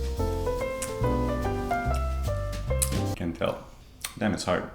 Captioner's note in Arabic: أصوات تقبيل